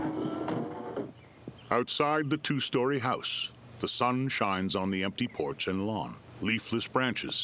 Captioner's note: birds chirping